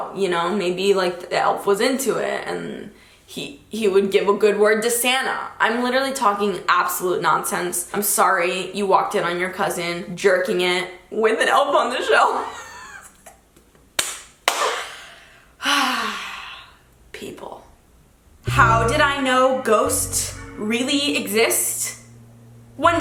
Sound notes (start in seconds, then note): 12.5 giggles; 15.7 sighs